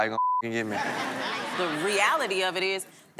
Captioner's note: beep; audience laughing